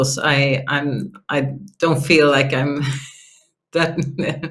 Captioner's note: laughs